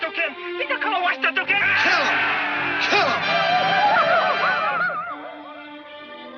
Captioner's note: Sam speaks in foreign language; indians hollering